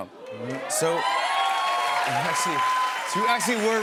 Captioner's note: cheers and applause